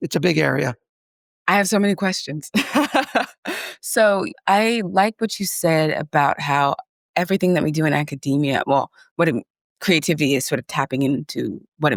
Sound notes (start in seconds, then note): 2.6 laughs